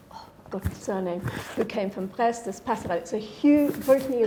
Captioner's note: speaking foreign language